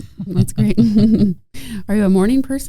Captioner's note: chuckling